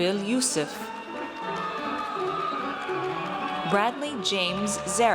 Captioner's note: audience cheers